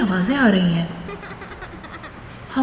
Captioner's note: child Laughing